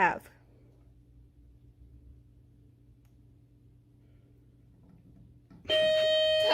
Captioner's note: timer sounds